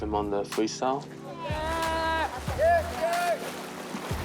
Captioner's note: teammates cheer